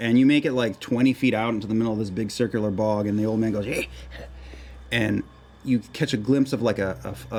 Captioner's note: croaks